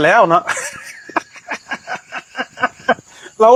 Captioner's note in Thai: เสียงหัวเราะ